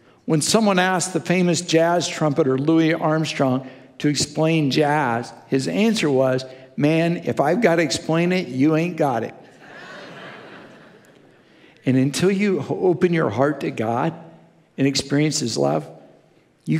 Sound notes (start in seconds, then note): 9.6 congregation laughing